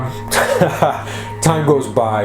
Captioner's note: chuckles